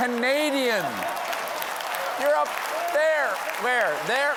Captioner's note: cheers and applause